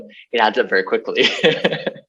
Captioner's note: laughs